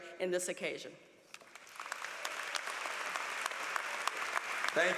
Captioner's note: applause